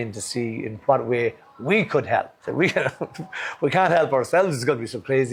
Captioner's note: laughs